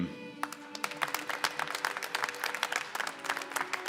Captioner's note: applause